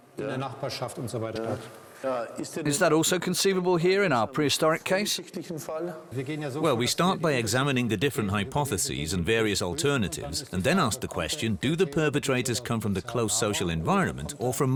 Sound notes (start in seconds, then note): 2.3 in German